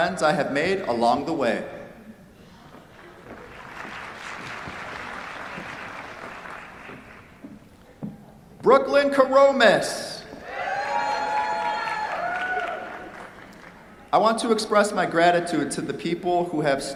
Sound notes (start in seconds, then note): 3.4 applause; 10.4 cheers, applause